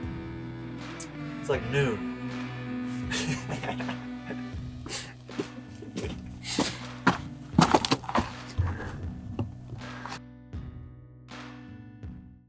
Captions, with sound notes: It's like, noon. (man laughing) (mellow ambient music)